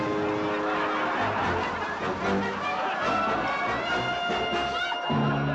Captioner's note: crowd laughing